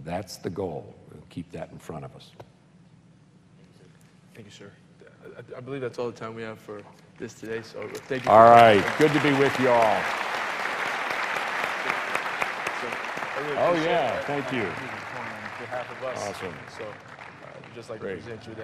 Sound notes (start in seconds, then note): 13.5 applause